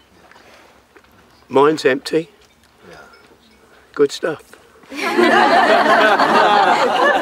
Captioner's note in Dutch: gelach